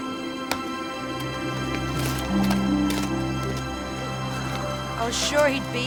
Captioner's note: slow soft music; wind blowing